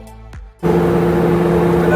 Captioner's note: plane engine